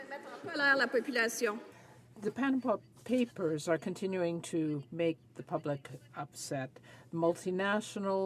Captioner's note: some Applause